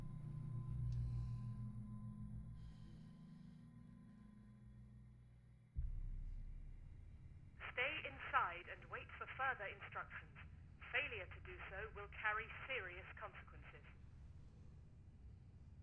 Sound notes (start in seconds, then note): 7.5 intercom